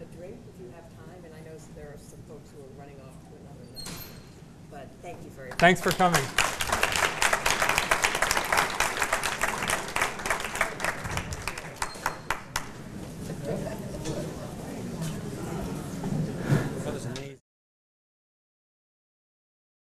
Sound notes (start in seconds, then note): 5.5 applause